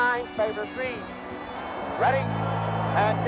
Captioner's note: crowd boos